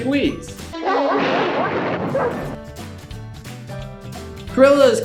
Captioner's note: dog barks and thunder sound effect